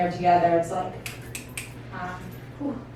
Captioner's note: snaps Three Times